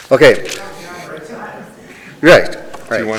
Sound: people laughing; woman speaking quietly

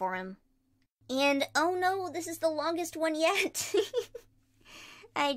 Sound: giggles

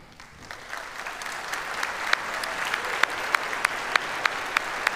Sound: audience applauds

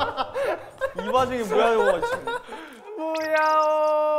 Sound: laughing

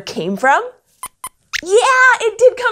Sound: squeaks squeaks

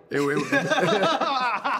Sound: laughter

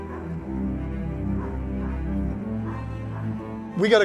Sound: dog barking

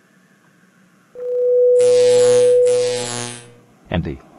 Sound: electrical humming and shorting-out sounds

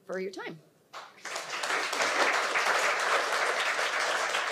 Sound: audience applauding

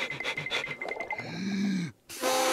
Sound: inhales deeply; note plays

